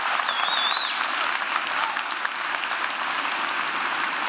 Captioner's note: applause